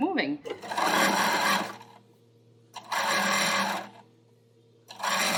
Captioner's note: sewing machine running